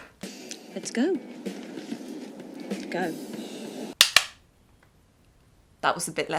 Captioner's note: toy gun pops quietly